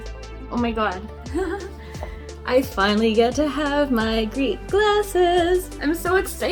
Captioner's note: giggles